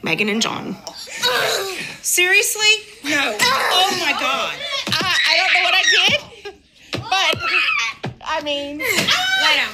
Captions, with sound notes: Meghan and John. Seriously? No. Oh my god. (children screaming) - I dunno what I did, but I mean...